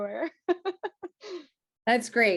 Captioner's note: giggles